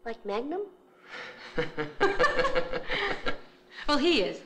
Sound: laughing

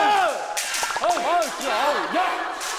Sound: popping

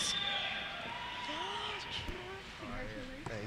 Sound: cheers; voiceover

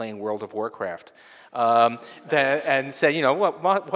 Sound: people laughing

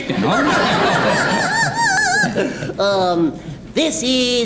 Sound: audience laughs

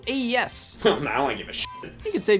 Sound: beep

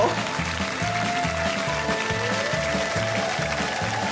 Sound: applause

